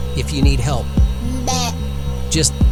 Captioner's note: struggling noises